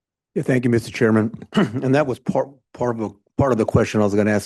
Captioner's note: clears throat